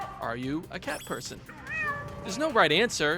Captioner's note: cat meowing